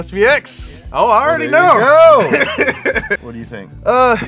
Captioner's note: laughs